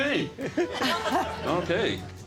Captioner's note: players laughing